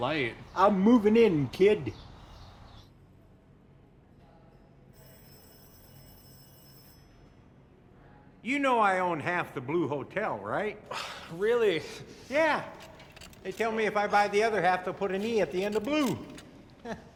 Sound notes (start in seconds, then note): 4.9 phone ringing